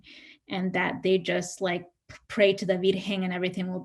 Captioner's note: speaks in Spanish